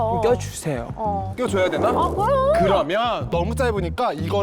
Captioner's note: deliberation sound effect